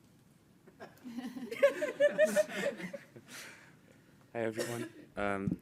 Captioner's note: people laughing